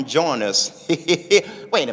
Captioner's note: laughing